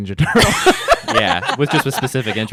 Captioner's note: laughing